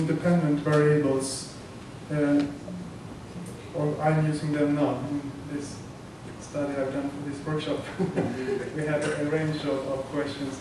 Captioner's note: laughter